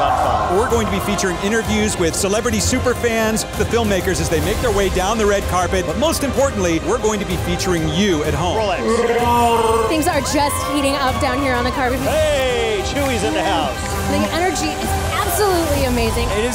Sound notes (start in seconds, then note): 8.8 Chewbacca sounds